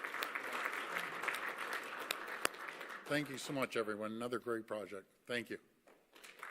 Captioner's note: applause